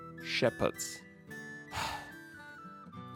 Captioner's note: sigh